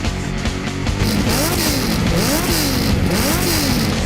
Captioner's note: engine revving